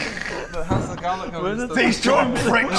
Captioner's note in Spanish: Murmuro murmuro